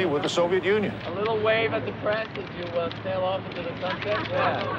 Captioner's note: English language spoken